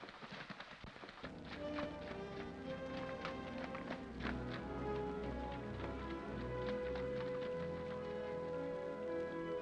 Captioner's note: water splashes; splashing hoofbeats; soft music